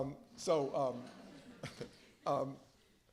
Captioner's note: laughter